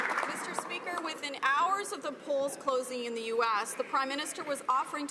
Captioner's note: some Applause